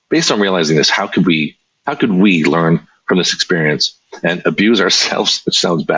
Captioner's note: chuckles